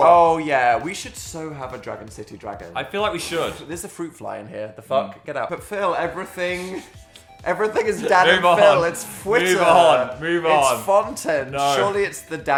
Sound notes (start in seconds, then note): 3.8 exclaims